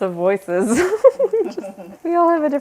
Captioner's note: chuckles